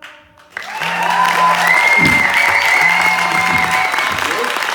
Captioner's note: applause; buzzing sound